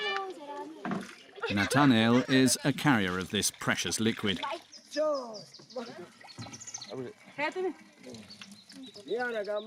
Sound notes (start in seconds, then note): 5.1 speaking in foreign